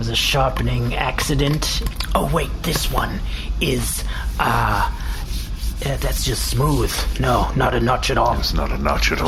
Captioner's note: rubbing